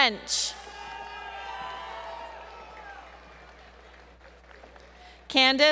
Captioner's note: crowd Cheering